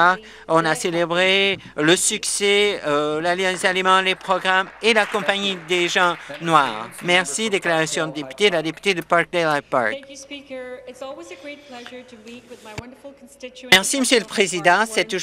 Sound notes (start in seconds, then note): 5.2 some Applause